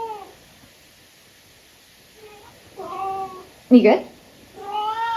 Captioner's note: cat meows; more cat meowing